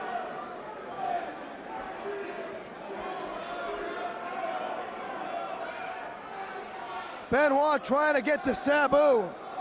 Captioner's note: crowd chatter